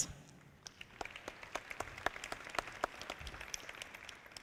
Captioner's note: audience clapping